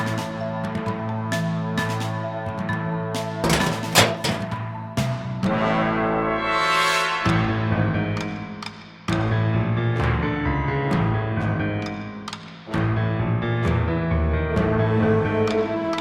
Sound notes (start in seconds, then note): 0.1 tense music continues; 3.4 metal clanking; 3.6 tense music continues; 6.0 dramatic music; 8.1 suspenseful music